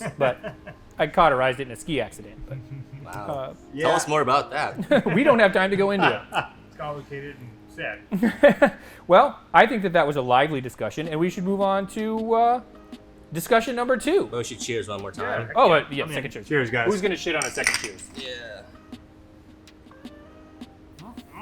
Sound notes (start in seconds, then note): 4.8 laughs; 17.3 glasses clink